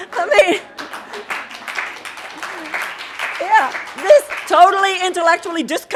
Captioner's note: audience laughing; audience applauding